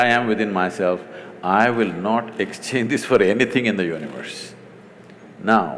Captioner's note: laughs